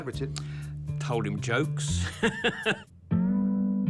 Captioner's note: laughs